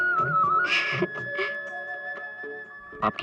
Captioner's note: chuckles